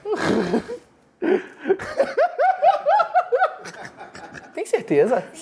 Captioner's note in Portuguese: risadas